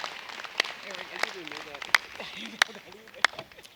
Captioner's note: applause